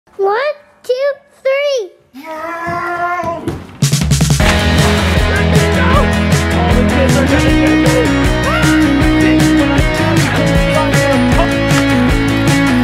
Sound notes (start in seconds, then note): 2.2 growling; 4.3 upbeat music